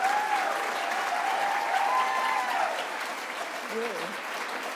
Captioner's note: applause